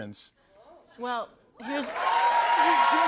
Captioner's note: cheers and applause; laughs